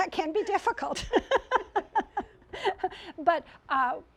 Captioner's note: laughter